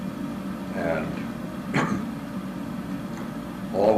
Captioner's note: cough